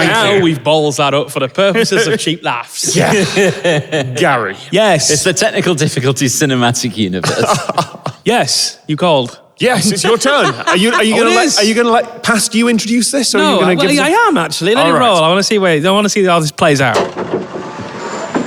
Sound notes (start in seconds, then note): 2.8 laughs